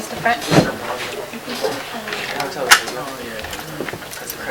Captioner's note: classroom chatter